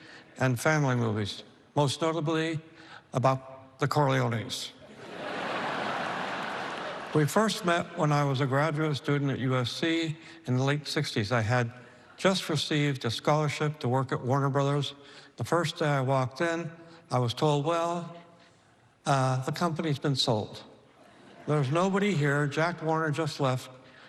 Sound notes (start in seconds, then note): 4.8 laughter